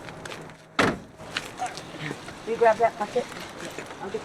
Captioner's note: door shutting